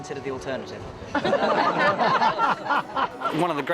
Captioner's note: all laugh